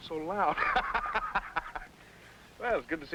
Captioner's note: men laughing